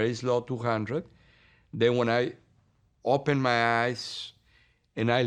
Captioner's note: voice shaking